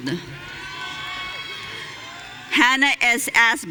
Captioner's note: audience cheering